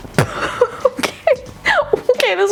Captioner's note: laughing